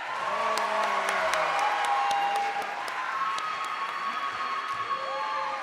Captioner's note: cheers and applause